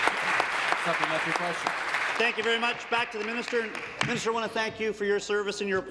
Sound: applause

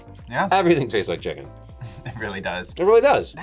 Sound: laughs

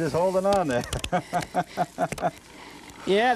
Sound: laughter

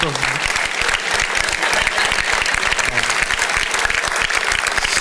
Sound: congregation applauds

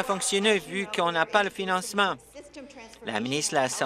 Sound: applause

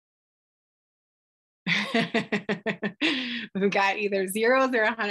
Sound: laughs'

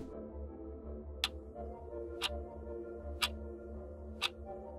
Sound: air whooshing; clock ticking

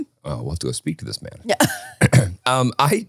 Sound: laughing

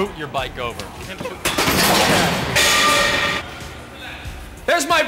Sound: crashing

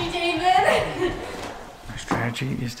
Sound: laughing

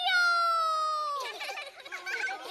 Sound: laugh

